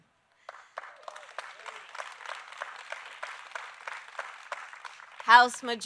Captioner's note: applause